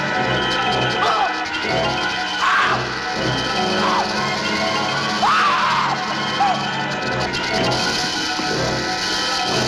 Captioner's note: scream - ominous music; screams; tense music